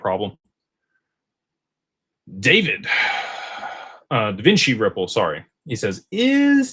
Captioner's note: sighs and gasps